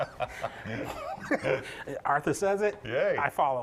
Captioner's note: both laugh